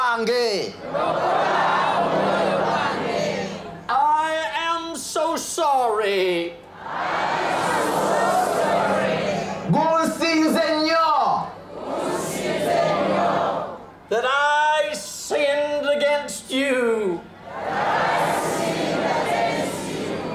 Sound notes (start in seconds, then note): 0.3 audience repeats in local language; 5.9 audience repeats in english; 11.2 audience repeats in local language; 17.2 audience repeats in english